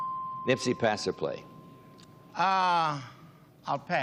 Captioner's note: bell dings